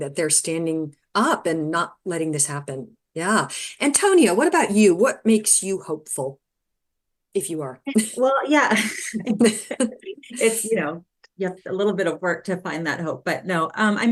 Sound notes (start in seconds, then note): 8.7 chuckling